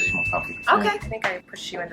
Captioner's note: bell dings